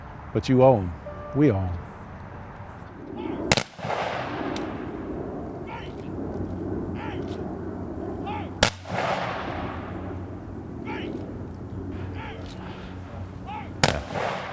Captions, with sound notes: But you owe them, we owe them. (Gunfire)